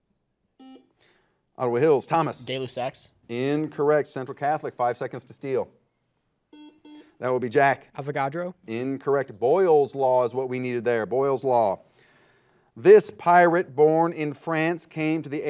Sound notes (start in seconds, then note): 0.6 buzzer buzzes; 6.5 buzzer buzzes